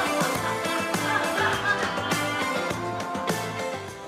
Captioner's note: audience laughter